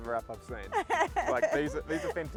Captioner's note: laughs